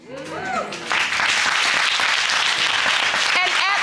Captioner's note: applause continues